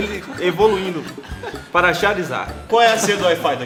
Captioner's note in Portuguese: Risos